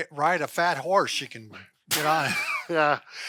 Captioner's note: laughing